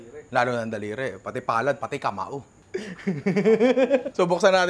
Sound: laughs

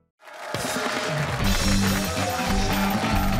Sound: cheering

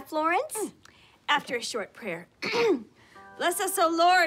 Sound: clears throat

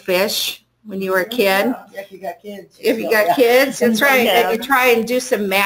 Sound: laughter in the classroom

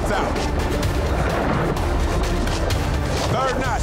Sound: urgent music; water rushing

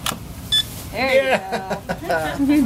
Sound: card reader beeps

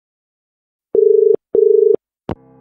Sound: dial tone

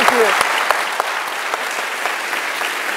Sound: applause

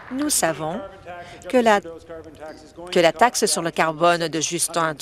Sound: applause

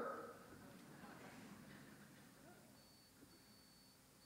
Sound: audience laughs

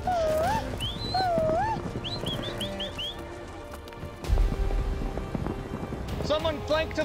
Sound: yelling, herding

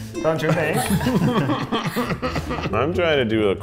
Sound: all laughing

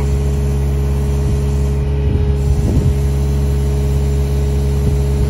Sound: drill whirring

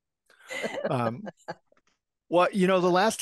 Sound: laugh

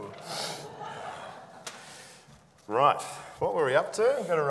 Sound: audience laughing

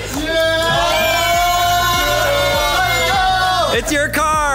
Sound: everyone cheers

